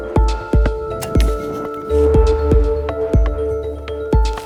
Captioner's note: arrow shooting